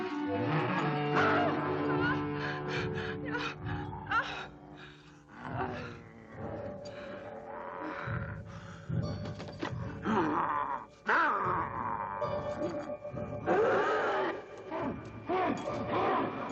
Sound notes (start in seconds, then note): 1.9 Leonor moaning; 13.5 dramatic music